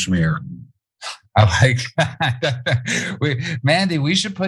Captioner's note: laugh